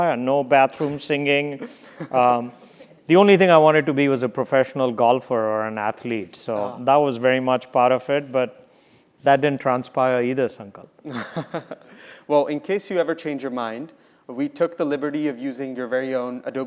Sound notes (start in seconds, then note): 1.6 laugh; 11.2 laugh